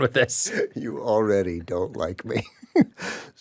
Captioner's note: laughs